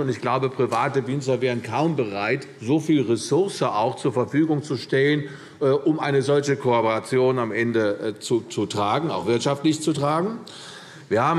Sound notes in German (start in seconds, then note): none